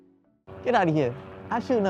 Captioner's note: gentle music; airplane humming